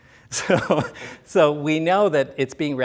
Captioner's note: laughs